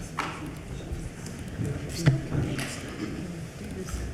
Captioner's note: Regents chatting